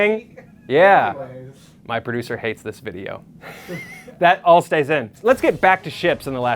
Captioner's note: laughs